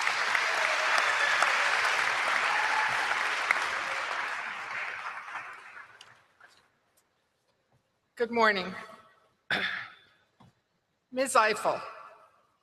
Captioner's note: applause